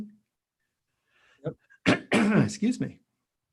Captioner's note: clears throat